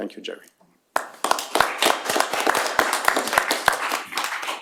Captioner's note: applause